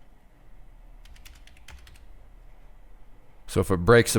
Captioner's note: typing